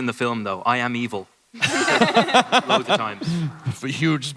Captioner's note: laughter